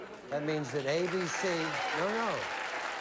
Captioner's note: audience applauds